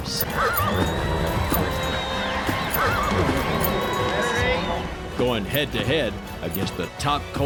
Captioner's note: neighing